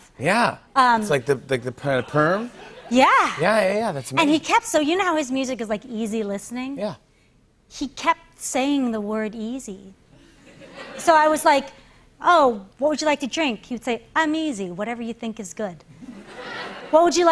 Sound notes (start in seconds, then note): 10.2 laughter; 16.0 laughter